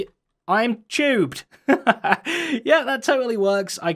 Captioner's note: giggles